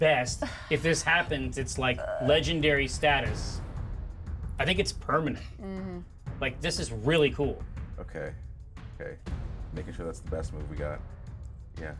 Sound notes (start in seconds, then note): none